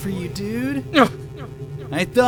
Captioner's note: sigh; surprised grunt!